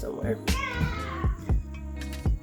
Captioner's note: yells “graaah!” in the background